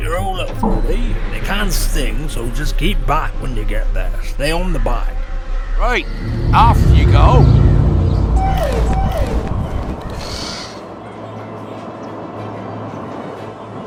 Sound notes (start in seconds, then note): 8.3 motorbike Revs; 9.7 Thestrals heard in distance; 9.7 motorbike Revs